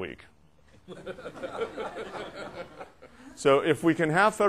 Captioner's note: laughter